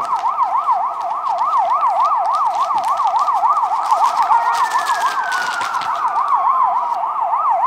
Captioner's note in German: raschelnde Tüte